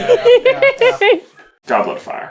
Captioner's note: laughter